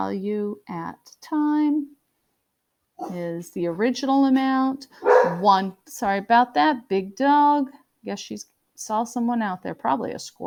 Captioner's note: dog barks